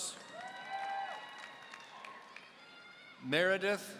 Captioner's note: audience cheering